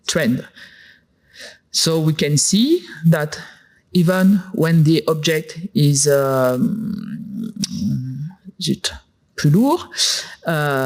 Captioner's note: french